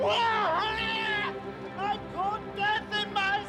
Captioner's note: screaming